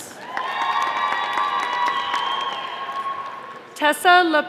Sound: audience applauding

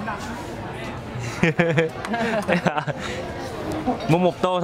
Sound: laughter

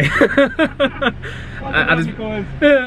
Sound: laughing

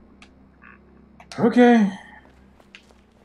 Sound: sighing

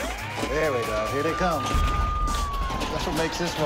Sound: alarm blaring

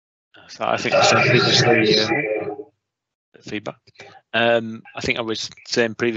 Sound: audio distorts 35.09

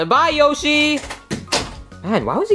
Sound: door thudding

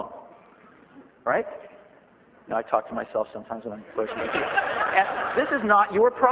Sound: laughter

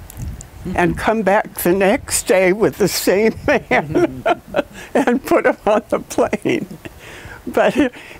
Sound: laugh

